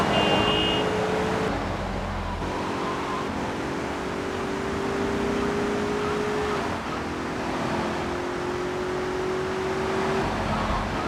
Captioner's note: gunshots; ominous music